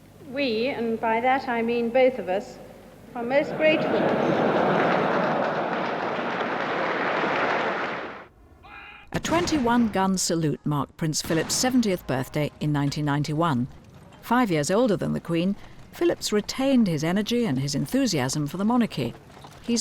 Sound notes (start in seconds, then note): 3.3 audience laughs; 5.5 audience applauds; 9.1 cannons firing